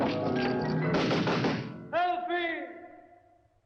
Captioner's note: banging on door